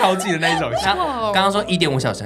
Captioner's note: exclamation